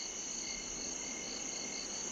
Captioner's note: crickets chirp